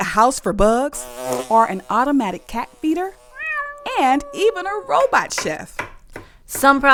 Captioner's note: buzzing; meow